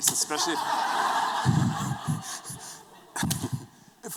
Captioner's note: laughter